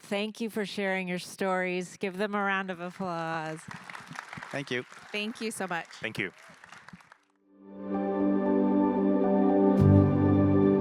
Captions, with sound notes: Thank you for sharing your stories. Give them a round of applause. (audience applauding) - Thank you. - Thank you so much. - Thank you. (light music)